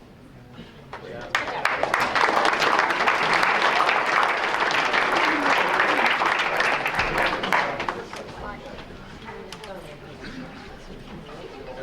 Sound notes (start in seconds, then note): 0.9 applause